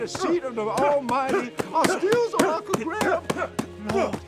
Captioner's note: loud grunting